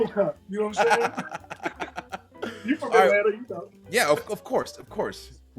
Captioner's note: laugh